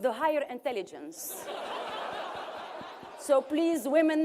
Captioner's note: laughter